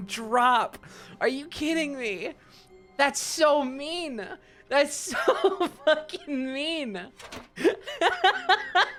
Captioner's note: laughing; laughs